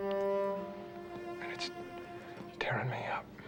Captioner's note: voice cracking